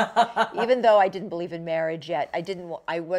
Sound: laughter

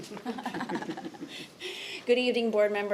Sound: laughing

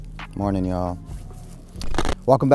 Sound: clap

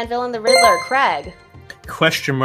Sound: chime rings

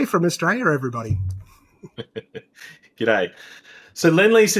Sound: laughs

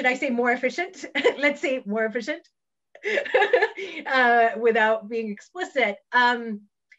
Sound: laughs

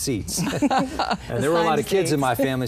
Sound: laughs

